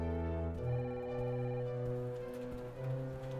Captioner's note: suspenseful dramatic music continues; phone ringing in the background; suspenseful dramatic music continues